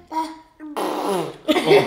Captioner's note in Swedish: Pruttljud